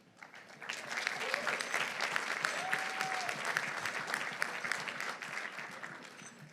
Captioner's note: audience applauding; audience cheering